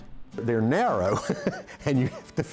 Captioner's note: laughing